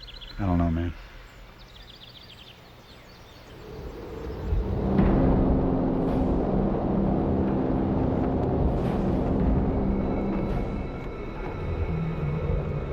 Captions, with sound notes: - I don't know man. (engine whooshing) (suspenseful music)